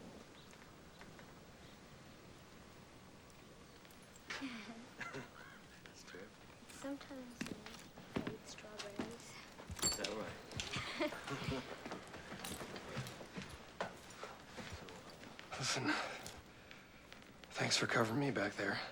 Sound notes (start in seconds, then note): 4.3 freebie laughs; 4.9 hank laughs